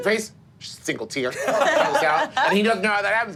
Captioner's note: group laughing